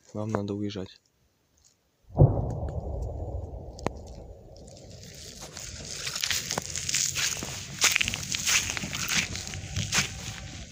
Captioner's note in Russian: Стрельба